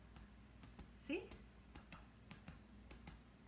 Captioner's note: tapping